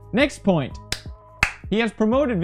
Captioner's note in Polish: klap klap